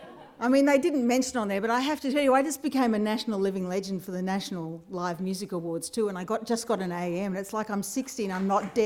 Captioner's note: applause